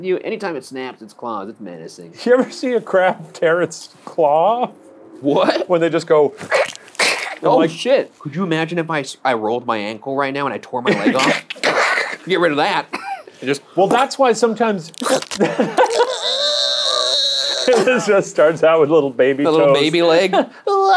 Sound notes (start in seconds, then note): 6.4 claw tearing; 15.8 groaning